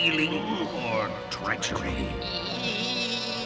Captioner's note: stammers